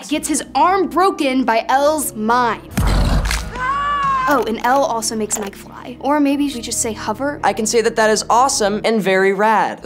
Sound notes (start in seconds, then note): 2.7 crunching sound; 3.5 Troy screaming